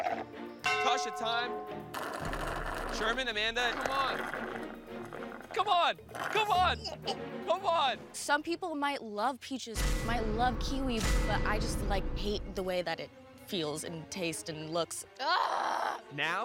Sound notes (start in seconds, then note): 3.5 slurping